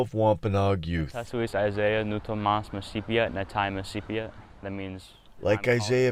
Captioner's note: speaking Native language